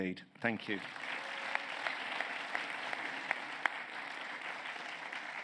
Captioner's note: applause